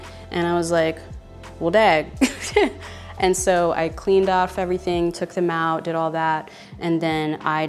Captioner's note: laughs